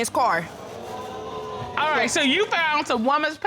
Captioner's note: audience exclaiming